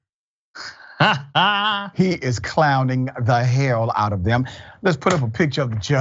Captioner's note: laugh